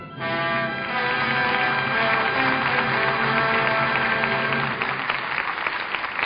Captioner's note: audience applauding